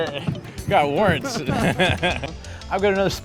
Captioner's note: laughing